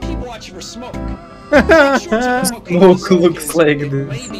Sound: laughing over a silly meme

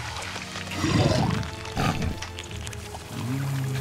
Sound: growling, snorting

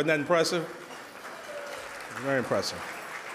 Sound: audience applauding

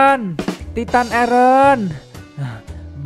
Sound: yelling out; yelling out

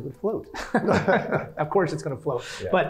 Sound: laugh

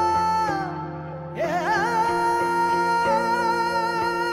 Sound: emotional vocalising

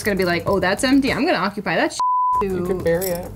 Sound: beep

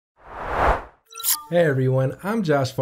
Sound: air whooshing

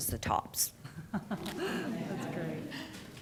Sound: laughter

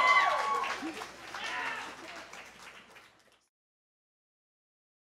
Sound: cheer & Applause

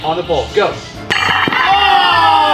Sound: pole clanging; group groaning in dismay

